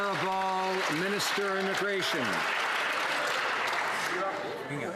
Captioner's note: some Applause